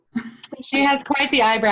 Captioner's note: laughs